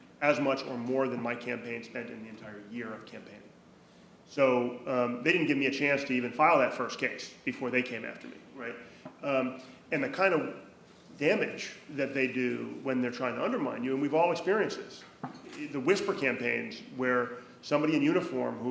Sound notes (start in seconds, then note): none